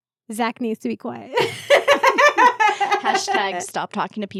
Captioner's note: laughing